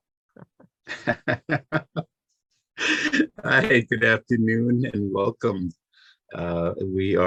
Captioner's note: laughs